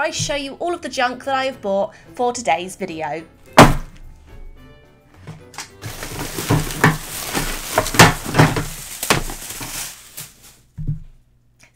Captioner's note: loud SLAM, rustling noises